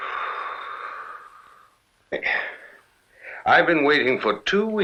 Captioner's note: father exhales